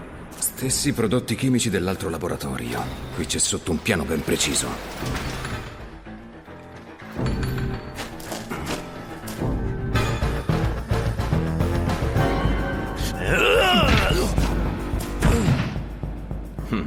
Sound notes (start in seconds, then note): 5.2 dramatic music; 9.5 scientist snarling; 13.0 scientist grunting